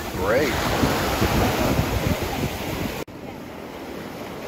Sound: waves rushing

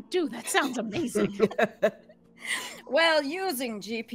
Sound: both laughing

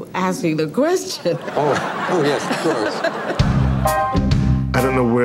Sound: audience laughing

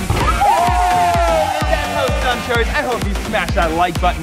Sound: cheers

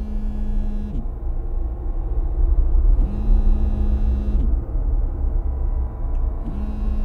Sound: phone Vibrating

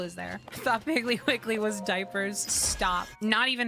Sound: laughing, Reading Chat

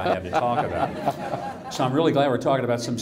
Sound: audience laughing

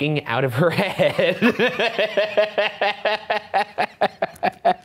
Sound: laughing

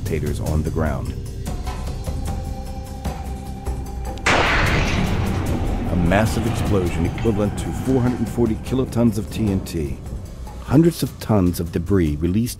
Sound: sound of explosion

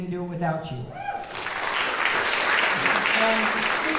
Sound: audience clapping

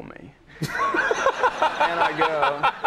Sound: laughing

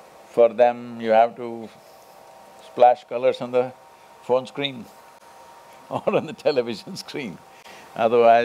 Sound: laughs

